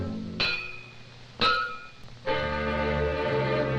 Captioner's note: dramatic music; metal clanks; light dramatic music